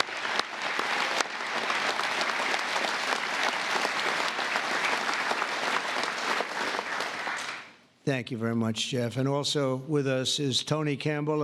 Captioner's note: applause